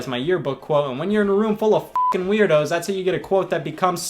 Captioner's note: beep